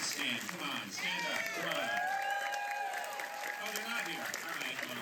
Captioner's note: applause